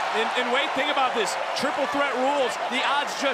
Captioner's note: crowd cheers